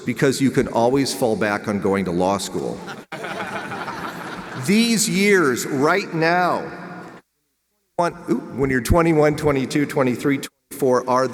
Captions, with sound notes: because you can always fall back on going to law school. (audience laughs) These years right now, when you're 21, 22, 23, 24,